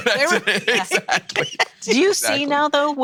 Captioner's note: laughing